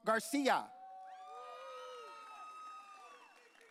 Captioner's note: audience cheering